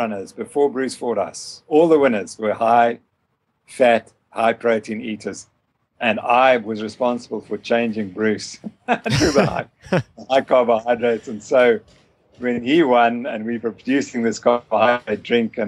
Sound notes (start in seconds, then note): 8.8 laughter